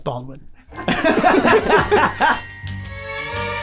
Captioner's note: group laughs; classical music